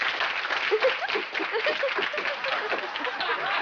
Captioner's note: applause; chattering; laughing